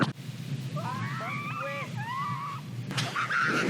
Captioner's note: screaming